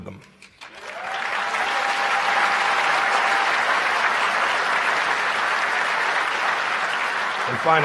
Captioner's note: applause